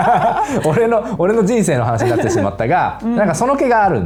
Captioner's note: laughs